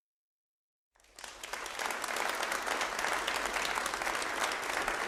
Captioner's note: audience applauding